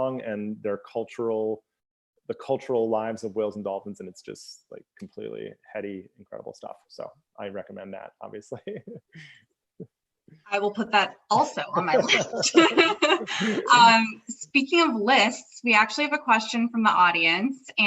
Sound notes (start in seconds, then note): 8.3 laughs; 11.4 both laugh